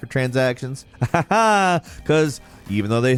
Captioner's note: laughs